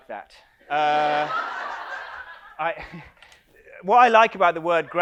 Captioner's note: audience laughs